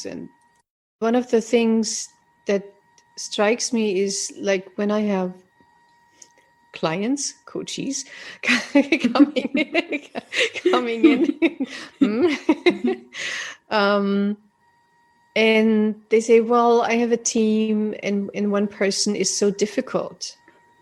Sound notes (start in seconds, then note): 8.5 laughs